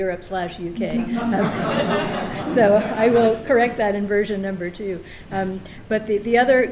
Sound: laughter

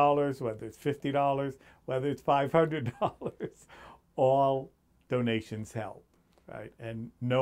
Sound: laughs

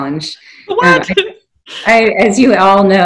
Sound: laughing

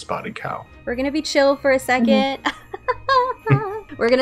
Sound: laughing at pun

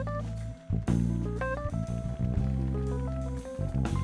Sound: audience applauding

